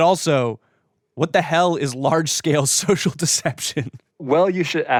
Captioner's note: chuckles